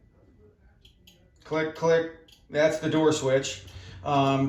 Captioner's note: clicking sound